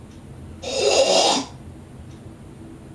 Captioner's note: clears throat rudely